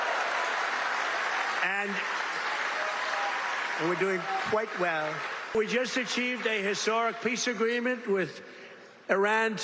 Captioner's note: cheers and applause